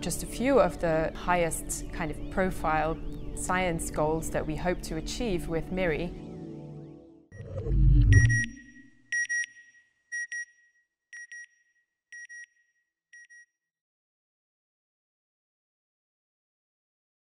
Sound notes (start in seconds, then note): 7.3 beep beep